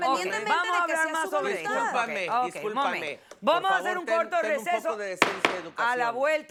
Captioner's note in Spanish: Hablan al unísono